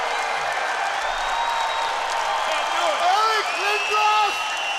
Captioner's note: crowd cheering